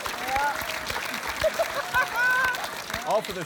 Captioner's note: laughs